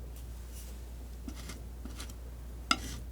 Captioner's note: metal scraping; metal scraping